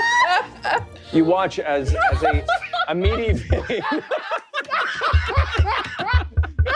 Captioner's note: all laughing; regal music; glass banging